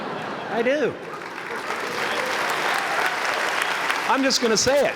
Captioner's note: laughter; applause